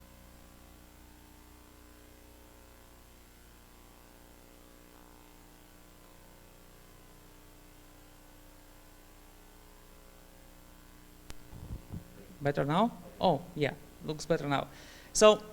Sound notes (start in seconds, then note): 0.0 silence